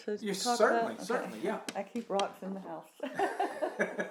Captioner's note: laughs